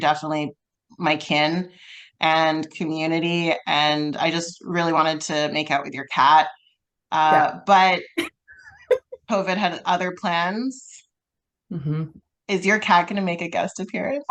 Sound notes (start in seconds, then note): 8.8 laughs